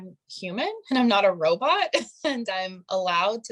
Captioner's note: chuckling